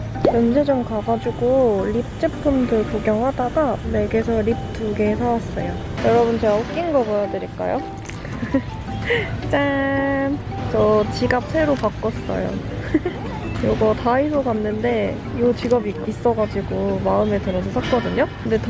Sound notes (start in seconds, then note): 12.6 laughing